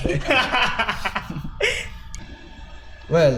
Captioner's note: laugh